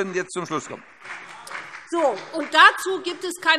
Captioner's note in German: Beifall Freie Demokraten